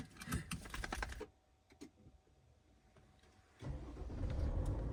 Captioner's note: car revving gently